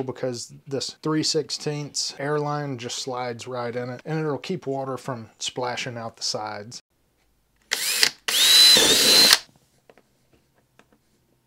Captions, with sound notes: because this 3/16 air line just slides right in it and it'll keep water from splashing out the sides. (drill whirs)